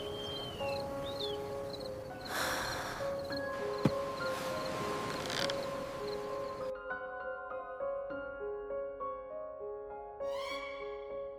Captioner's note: sighs